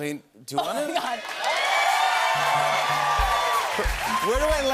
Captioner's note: cheers and applause